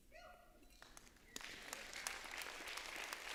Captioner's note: applause